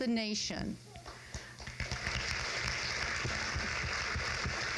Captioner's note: crowd claps